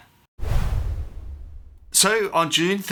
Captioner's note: woosh